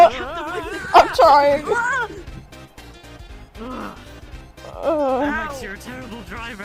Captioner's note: everyone screams